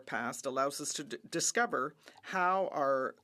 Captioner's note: speaking French